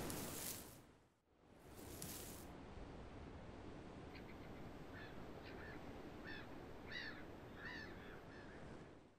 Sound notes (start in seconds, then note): 1.6 Harakeke leaves rustle; 4.4 ocean sounds